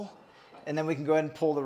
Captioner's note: metal sliding